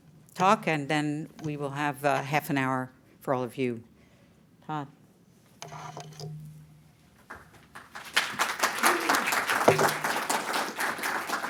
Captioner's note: applause